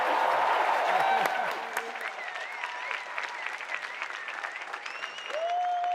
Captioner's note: applause